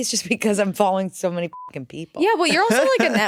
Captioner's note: beep